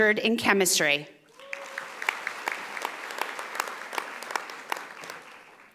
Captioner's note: audience applauding